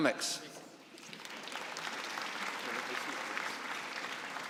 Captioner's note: applause